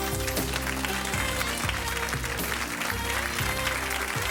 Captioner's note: audience applause